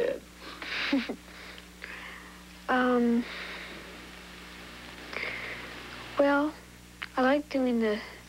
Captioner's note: giggles